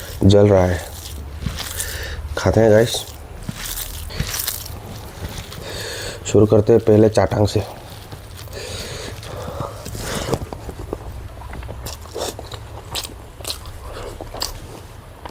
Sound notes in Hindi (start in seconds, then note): 9.2 नाक से की जाने वाली आवाज़